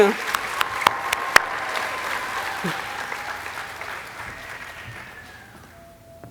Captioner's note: audience applauding and cheering